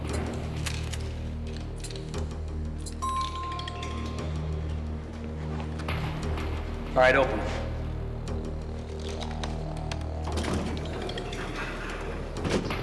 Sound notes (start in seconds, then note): 5.2 elevator bell dings; 9.5 indistinct conversation